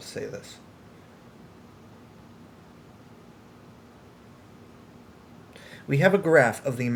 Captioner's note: long pause